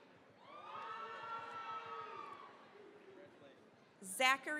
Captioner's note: cheering, applause